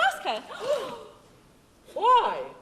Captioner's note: fairies gasp